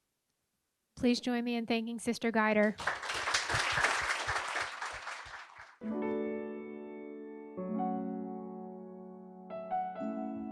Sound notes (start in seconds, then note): 2.6 applause